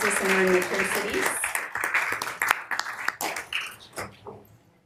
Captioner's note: members applauding